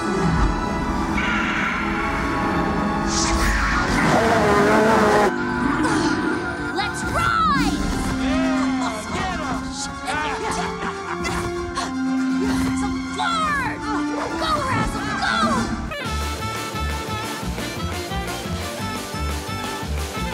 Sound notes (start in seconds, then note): 0.3 tense instrumental music; 3.0 Razzle roars; 8.0 triumphant instrumental music; 16.0 energetic instrumental music